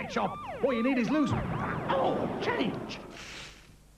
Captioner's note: bang